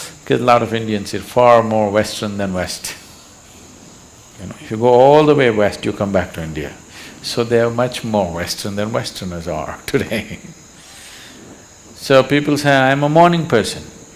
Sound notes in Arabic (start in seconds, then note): 10.0 يضحك